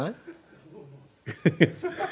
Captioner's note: voiceover; laughs